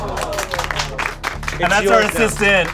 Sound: audience claps

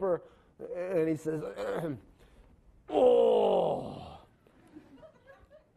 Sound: throat clearing; grunting; laughing

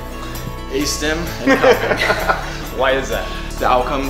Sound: laughing

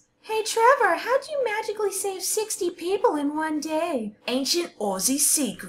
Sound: as drowning victim

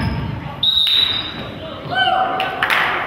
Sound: whistle blows

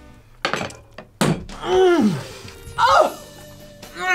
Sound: fork thudding; moans

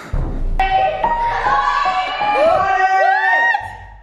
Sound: screaming

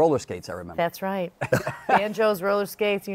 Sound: laughter

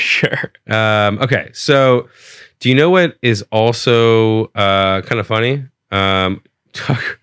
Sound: laughs; laughs

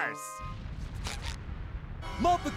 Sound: rumbling

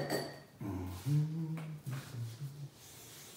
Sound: humming

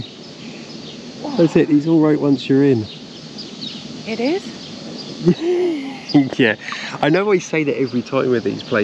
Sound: laughter

